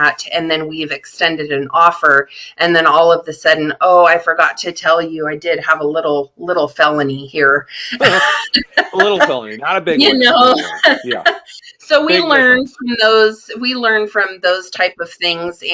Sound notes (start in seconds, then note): 11.3 laughing